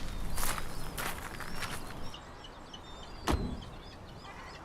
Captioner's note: seagulls crying